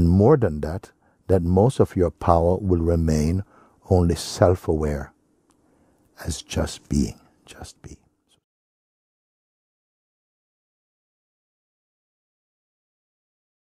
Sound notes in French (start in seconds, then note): none